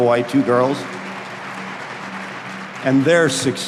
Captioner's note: audience applauding